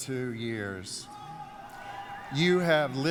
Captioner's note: cheers